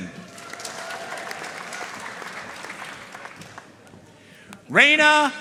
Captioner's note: audience cheering and applauding